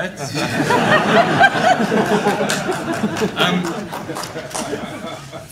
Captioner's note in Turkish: kahkahalar